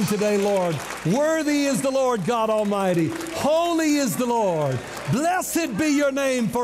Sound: clapping and shouting

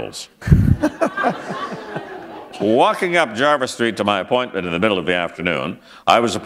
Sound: laughter

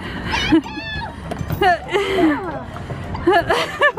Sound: laughing

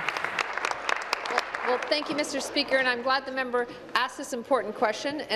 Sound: applause

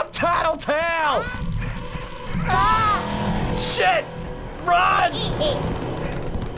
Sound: rapid beeping

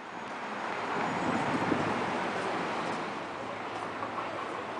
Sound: traffic passing

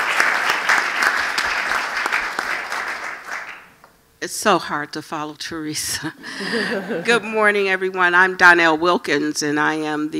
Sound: applause

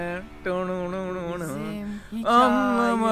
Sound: beatboxing

